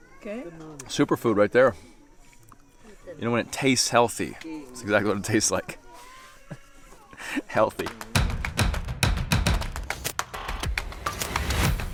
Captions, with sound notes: - Okay? - Super food right there. You know what, it tastes healthy. That's exactly what it tastes like. (chuckles) Healthy. (upbeat tribal music)